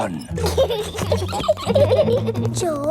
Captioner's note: both giggling